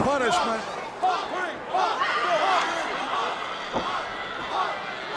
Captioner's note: audience chanting